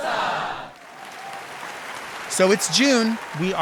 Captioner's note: audience applauding